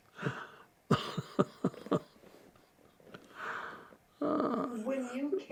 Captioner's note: laughing